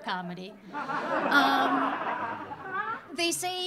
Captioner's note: audience laughing